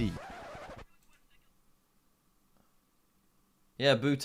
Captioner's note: record scratches